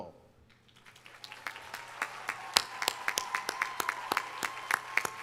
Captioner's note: audience applauding